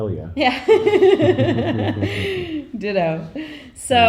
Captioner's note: laughing